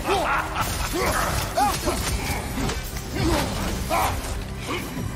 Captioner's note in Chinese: 大笑